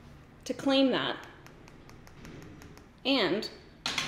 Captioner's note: nail tapping